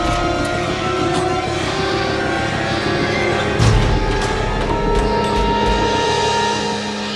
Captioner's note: dramatic music; Mya snarling